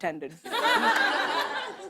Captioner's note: laughter